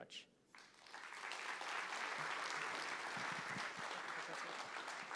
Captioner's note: applause